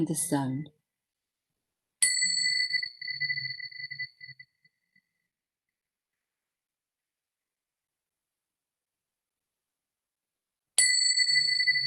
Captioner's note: bells ringing